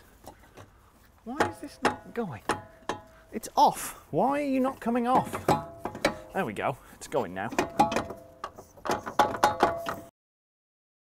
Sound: various clanking of suspension

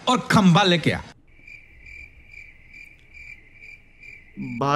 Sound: no voice

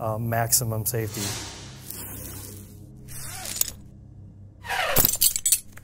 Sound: electronic whooshing

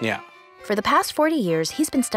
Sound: voiceover

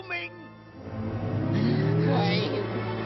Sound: gasp

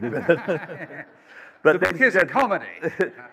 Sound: laughter

